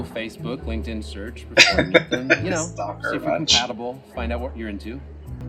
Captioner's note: laughing